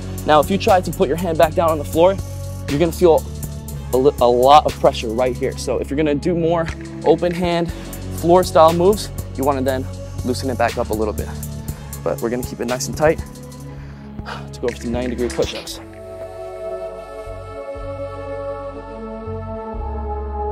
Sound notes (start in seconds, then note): 13.2 breathes deeply; 16.2 slow instrumental hip-hop music